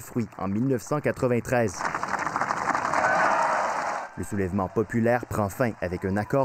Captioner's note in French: applaudissements